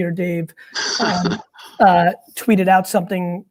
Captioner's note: laughing